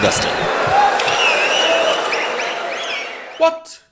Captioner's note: wild applause and cheering for 22 seconds